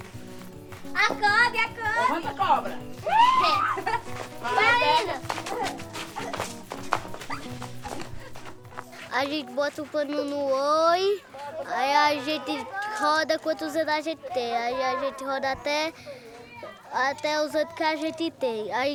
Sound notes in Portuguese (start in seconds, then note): 4.5 risos